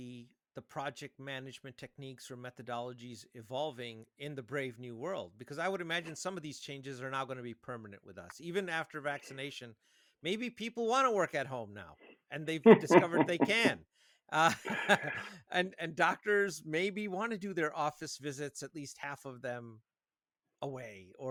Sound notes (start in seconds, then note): 12.4 chuckles; 14.6 laughing